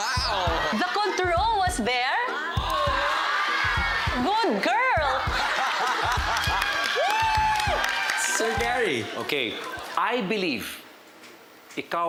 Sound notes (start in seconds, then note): 2.2 crowd cheers; 5.1 laughter; 7.3 crowd cheers, applauds